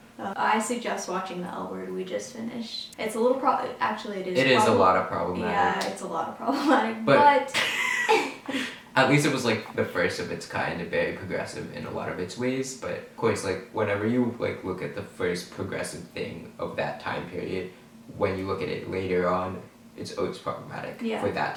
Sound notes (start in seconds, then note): 7.7 laughing